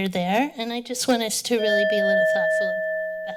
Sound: alarm ringing

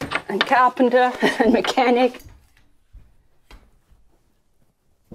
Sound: chuckling

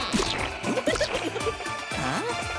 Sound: giggling

